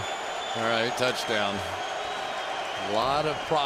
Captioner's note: whistle